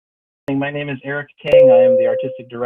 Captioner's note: bell rings